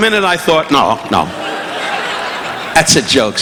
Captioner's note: audience laughing